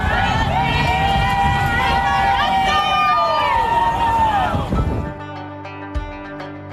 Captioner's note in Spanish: voces